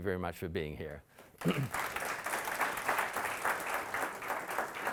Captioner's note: audience applauding